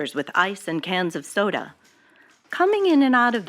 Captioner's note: archival news audio